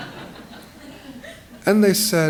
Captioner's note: laughter